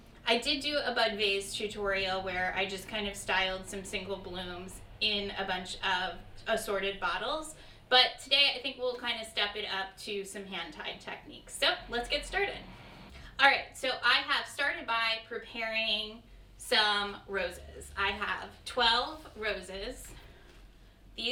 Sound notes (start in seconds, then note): none